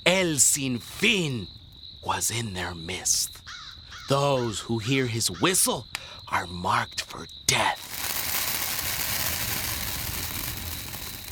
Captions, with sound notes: (speaking Spanish) was in their midst. (crow cawing) Those who hear his whistle are marked for death. (fire crackling)